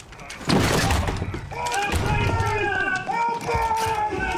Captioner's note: men shouting